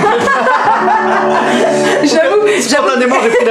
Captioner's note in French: rires; rire